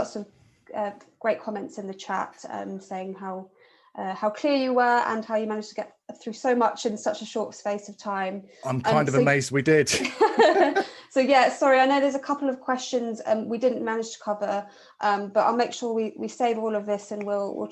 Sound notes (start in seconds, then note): 10.2 laughing